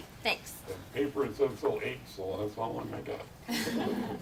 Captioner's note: audience laughs